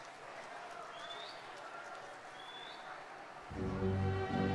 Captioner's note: people chattering; crowd members whistling